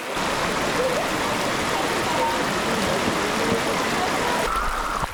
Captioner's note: water splashing